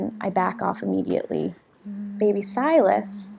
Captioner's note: humming